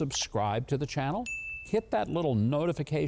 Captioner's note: bell chimes